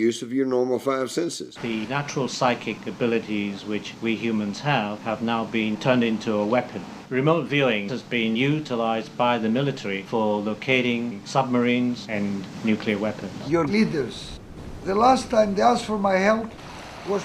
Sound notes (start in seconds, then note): none